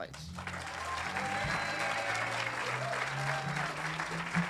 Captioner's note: audience applauding